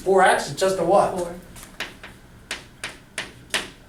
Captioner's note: voiceover